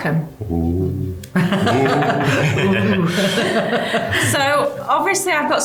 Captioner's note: group sound excited